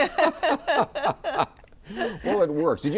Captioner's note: all laugh